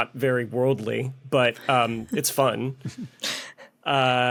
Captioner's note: scattered snickering